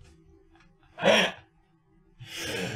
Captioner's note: inhale